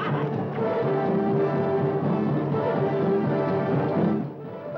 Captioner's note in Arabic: صهيل الحصان; موسيقى درامية; أصوات المعركة